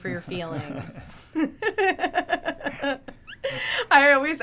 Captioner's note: laughing